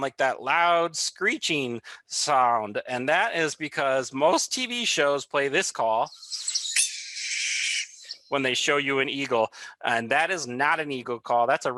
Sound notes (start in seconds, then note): 6.0 bird squeaking